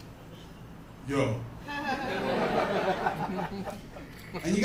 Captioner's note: laughter